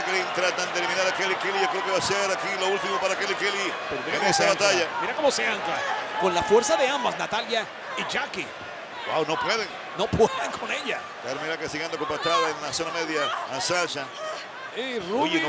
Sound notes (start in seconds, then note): 9.8 laugh